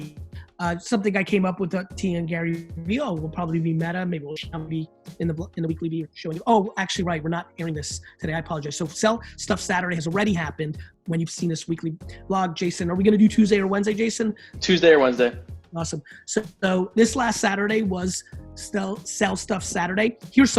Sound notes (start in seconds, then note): 4.5 speech distorted by poor connection